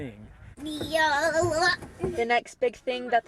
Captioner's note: young child babbles